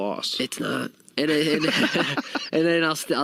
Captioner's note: laughing